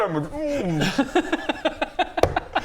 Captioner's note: amused laugh